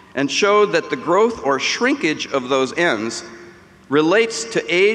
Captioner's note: none